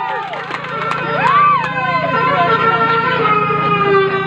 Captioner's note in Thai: ปรบมือ